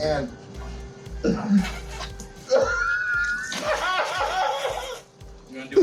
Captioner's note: fake butthole diarrhea spraying; giddy laughter